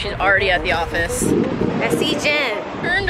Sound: wind blowing

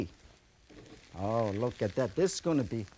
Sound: ingredients sizzle

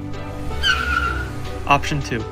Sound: tires screeching

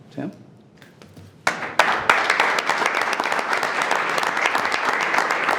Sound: everyone applauds

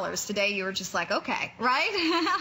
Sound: laughter

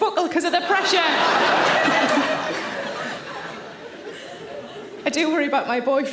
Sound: audience laughing

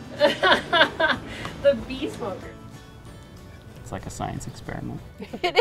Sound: laughs

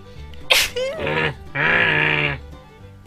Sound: grumbling

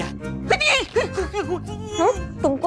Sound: shouts

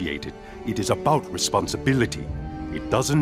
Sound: none

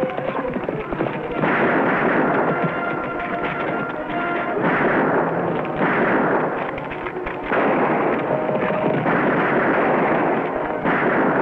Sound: horses galloping; guns firing

